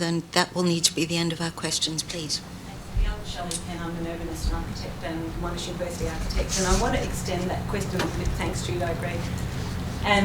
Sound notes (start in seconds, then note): 5.3 speaks faintly